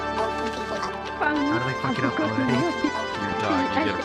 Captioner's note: chatter